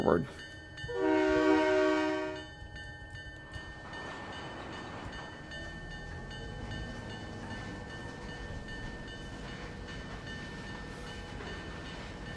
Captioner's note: train whistle